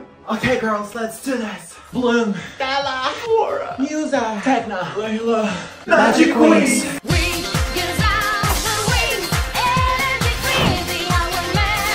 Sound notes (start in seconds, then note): 3.1 sobbing